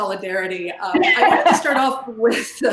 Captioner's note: laughs